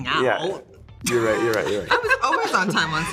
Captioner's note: guffaws